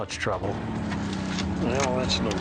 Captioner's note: wheels grinding